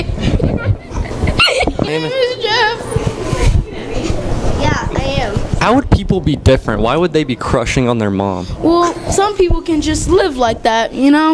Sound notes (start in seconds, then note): 0.0 laughing